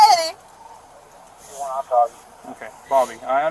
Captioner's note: radio chatter